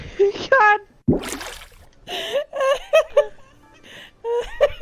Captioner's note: bloop; both laughing